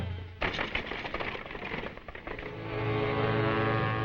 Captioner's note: chariot rattling